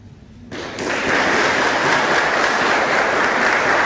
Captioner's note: crowd applauding